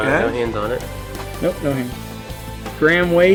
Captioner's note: voiceover